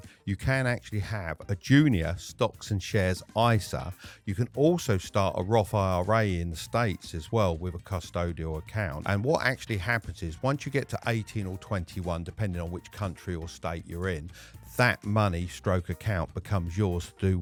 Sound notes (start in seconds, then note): none